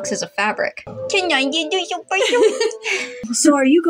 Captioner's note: laugh